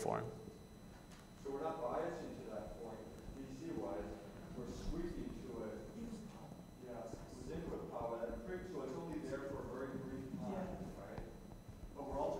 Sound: audience comments

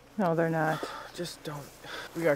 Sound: sighs

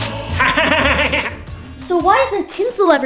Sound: Grinch laughing

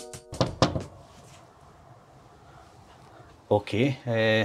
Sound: knocking on door

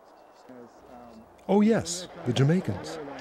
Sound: voiceover

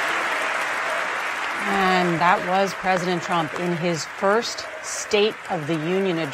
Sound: cheers and applause

